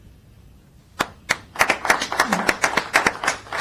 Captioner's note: applause